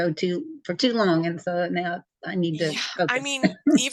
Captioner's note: laughs